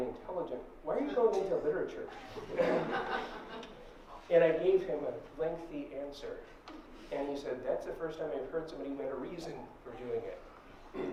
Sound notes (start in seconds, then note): 2.2 laughter